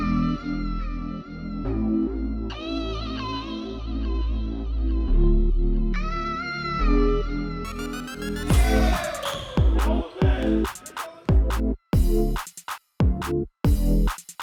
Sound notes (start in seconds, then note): 8.4 men cheering; 11.7 rap music